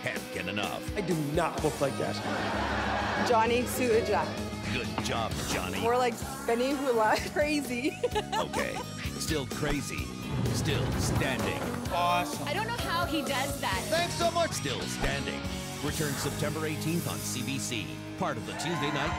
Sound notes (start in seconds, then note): 2.1 laughter